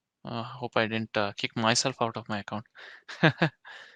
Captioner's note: chuckles